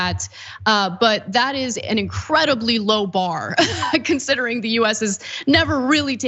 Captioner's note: laugh